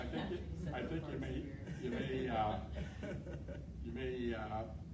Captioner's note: chuckling